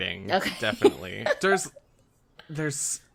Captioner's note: laughs